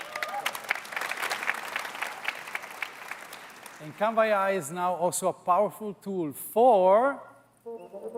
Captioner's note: applause